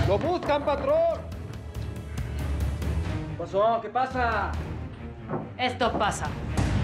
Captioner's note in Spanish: golpeando la puerta